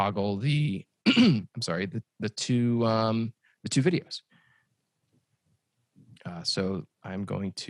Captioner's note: cough